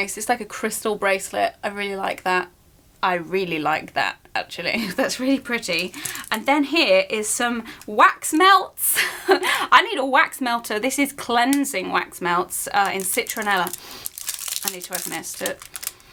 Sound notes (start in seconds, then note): 13.8 inhales